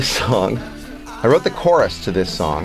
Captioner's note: laugh